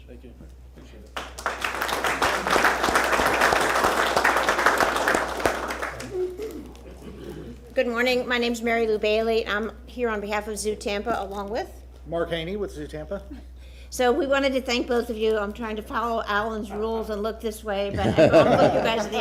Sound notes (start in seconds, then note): 5.0 applause